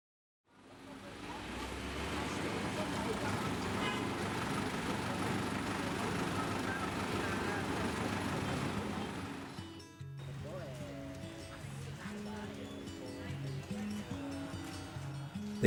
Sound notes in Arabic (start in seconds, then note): 0.7 الطلاب يتحادثون; 8.4 موسيقى جيتار لطيفة; 14.2 مغني يغني